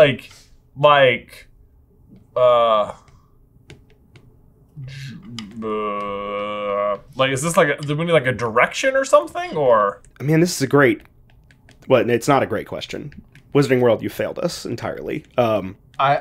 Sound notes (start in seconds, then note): 4.8 grumbles